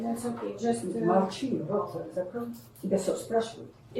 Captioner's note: speaking in a foreign language